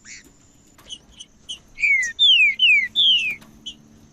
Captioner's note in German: trinca ferro cantando